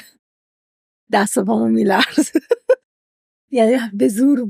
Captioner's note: laughs